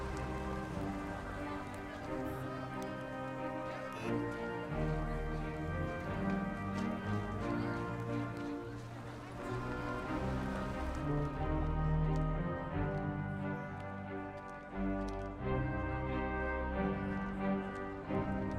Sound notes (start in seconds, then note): 2.9 distant car horn honks